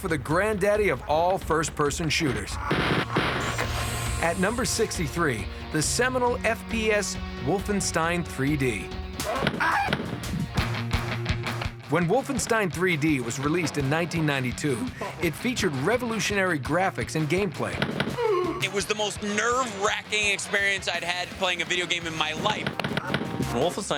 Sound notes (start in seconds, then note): 3.8 gunfire; 10.8 screaming